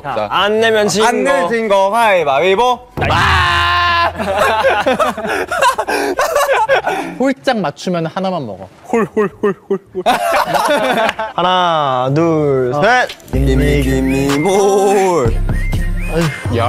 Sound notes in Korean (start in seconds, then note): 11.0 짝짝짝짝